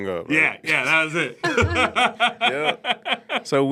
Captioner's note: laughs